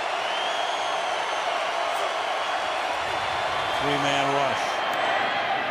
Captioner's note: cheering